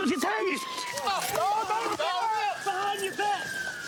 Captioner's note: yells